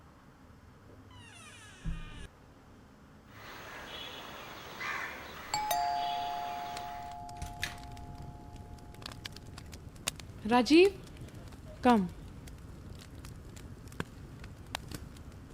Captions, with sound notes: (Door close) (Birds chirping) (Door bell) Rajeev, come.